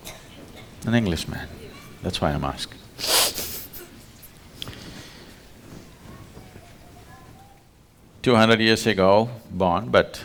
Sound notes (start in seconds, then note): 3.9 laughs